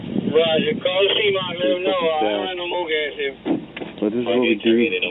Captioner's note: radio chattering